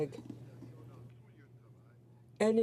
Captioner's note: speaking French